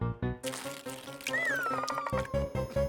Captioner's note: tearing